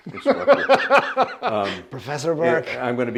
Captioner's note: laughs